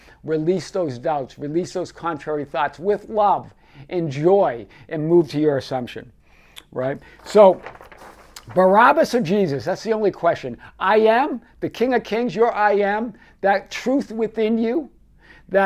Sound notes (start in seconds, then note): 6.9 paper rustling